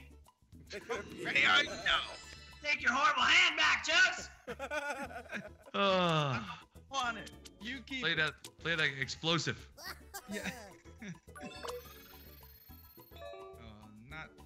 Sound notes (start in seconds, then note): 4.4 laugh